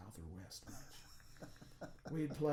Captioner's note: laughing